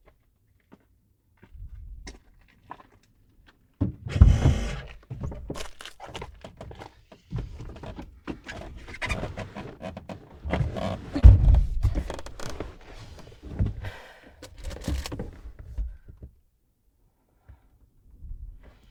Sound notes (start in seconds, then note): 1.3 footsteps crunching; 4.0 door creaks; 11.2 door thunks; 13.8 Andrea sighs